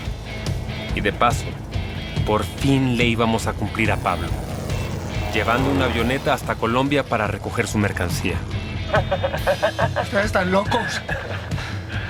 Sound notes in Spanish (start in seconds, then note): 8.8 Risas